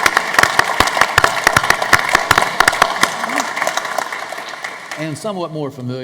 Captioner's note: applause